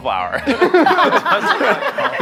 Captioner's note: all laughing